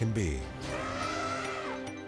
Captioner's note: elephant trumpeting